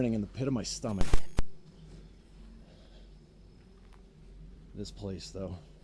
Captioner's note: static hisses